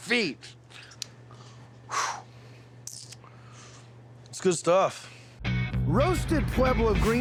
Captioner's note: exhaling